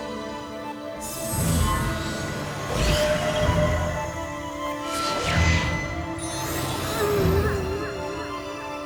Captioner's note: zapping